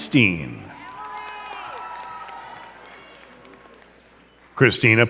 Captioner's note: crowd cheering and clapping